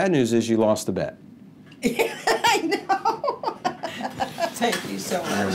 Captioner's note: laughing